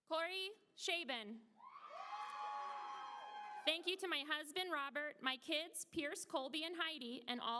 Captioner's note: applause